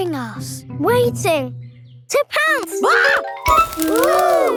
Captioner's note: screams